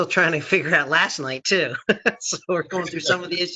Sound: laughing

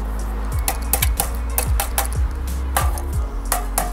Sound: hammering

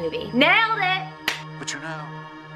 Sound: clap

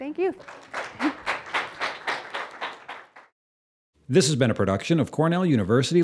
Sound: applause

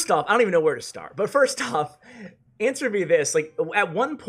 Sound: laughing

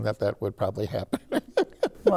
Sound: laughter

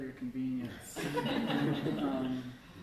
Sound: laughter

